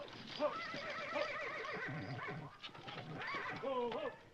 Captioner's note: horse neighing